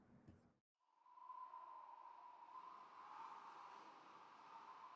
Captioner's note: wind whistling